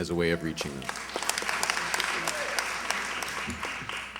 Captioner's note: applause